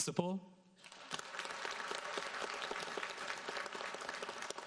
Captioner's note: audience applauds